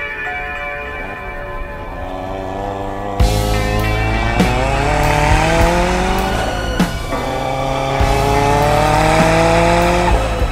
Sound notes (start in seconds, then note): 1.3 car engine roars; 2.7 ambient music